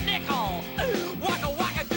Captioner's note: inhale